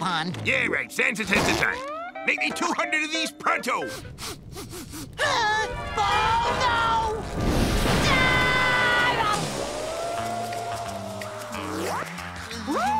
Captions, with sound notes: Yeah, right, sensitive to time. Make me 200 of these, pronto! [sniffing] Oh, no! [screaming]